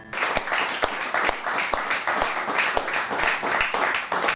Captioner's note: clapping